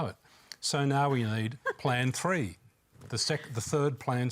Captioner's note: laughs